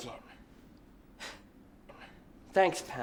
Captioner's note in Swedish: Alice hånar